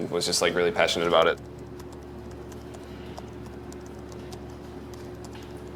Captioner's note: keyboard clacking